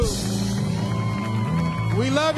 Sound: audience cheering; audience clapping

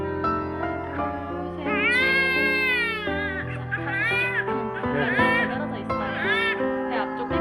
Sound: crying

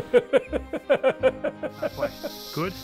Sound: laughs

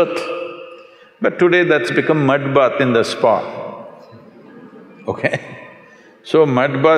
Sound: laughter

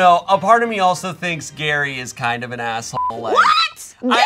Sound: beep

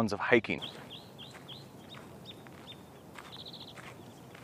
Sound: birds chirping quietly

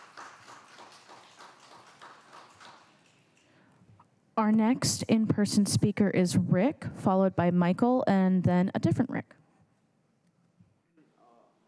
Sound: applause

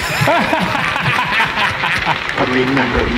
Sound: laughing

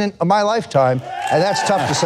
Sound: audience cheering; audience applauding

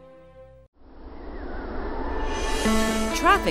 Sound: wind noise

